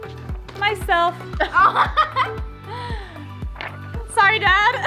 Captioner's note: laughs